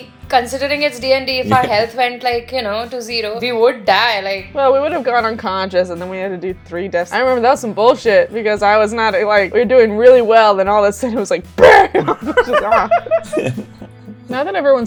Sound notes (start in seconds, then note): 11.6 laughter